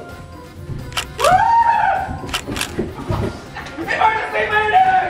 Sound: camera clicks

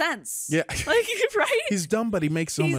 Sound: laughs quietly

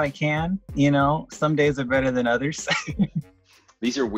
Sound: laughs

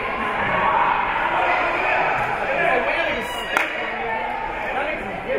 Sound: team chanting; spectators and teams chattering

